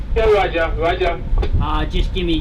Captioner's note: garbled voice on radio